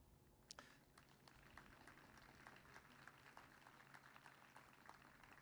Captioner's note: applause